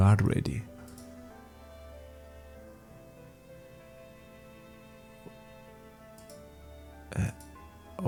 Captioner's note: mouse clicks